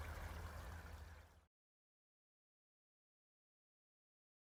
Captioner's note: water and crows fade away